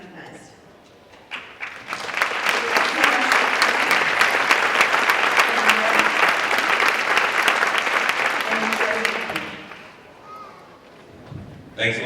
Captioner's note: applause